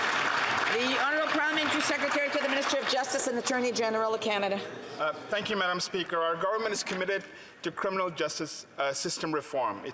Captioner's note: some Applause